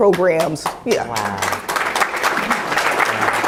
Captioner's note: applause